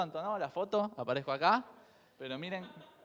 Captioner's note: crowd chuckles